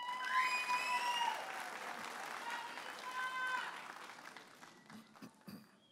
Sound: audience applauding and cheering

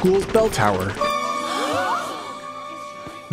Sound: gasps

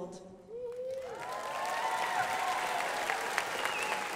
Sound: crowd applauding

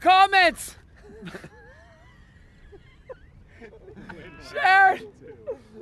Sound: laughter

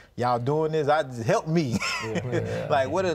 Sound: laughs

